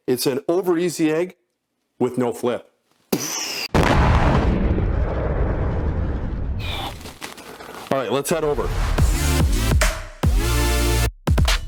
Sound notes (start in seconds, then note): 3.7 dynamite explodes; 8.4 upbeat music